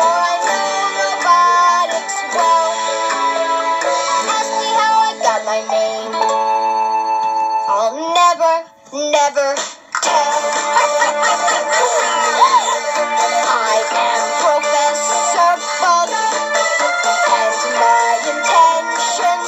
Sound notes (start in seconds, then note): 10.8 all gasp in shock